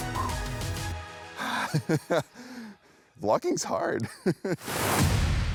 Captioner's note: laughing